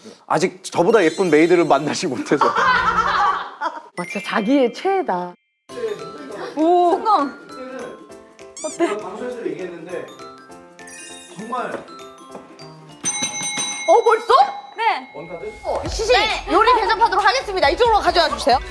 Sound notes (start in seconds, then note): 2.4 laughing